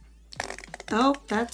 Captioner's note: ketchup squirting